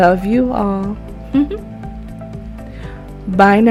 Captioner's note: giggles